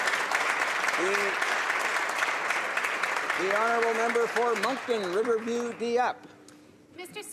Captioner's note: applause